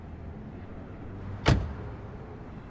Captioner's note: car door slams